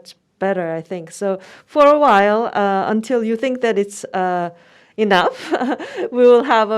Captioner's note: laughs